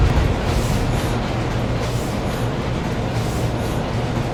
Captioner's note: screeching; machine humming